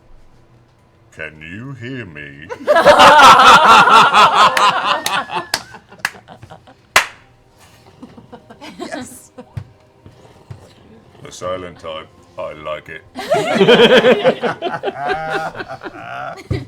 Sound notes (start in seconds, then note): 2.5 laughter; 7.7 fire sounds; 13.1 laughter